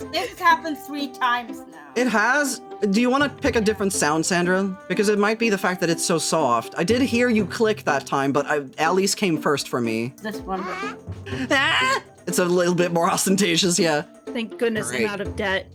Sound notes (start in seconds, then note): 10.4 mimicking Sound